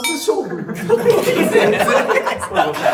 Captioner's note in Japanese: 笑い声